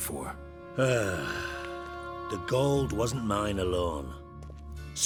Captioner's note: heavy sigh